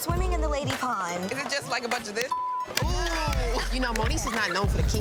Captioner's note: beep